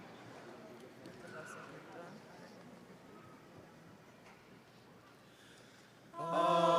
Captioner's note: students chattering